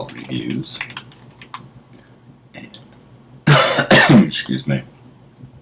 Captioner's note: cough